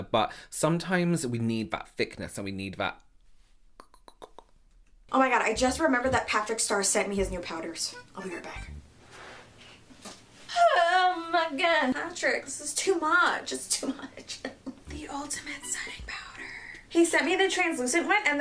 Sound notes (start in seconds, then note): 3.8 clicking tongue; 14.0 chuckling